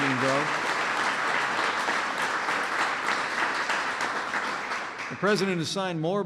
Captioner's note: applause